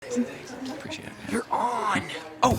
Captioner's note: indistinct chatter; crew member whispers